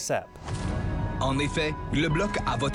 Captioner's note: french dialogue